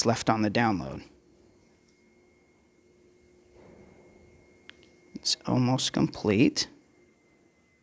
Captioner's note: long pause; silence